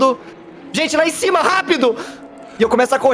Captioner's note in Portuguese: gritando